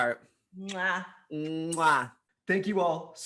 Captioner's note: smacks